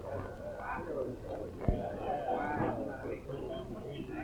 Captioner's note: people chattering